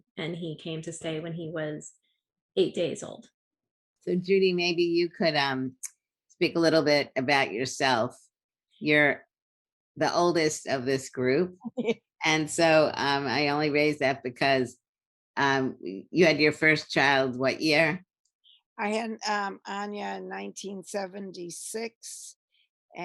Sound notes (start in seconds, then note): 11.7 laughs